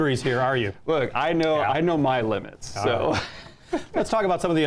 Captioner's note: chuckles